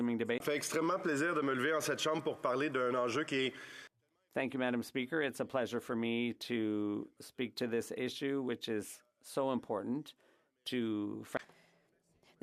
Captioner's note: speaking French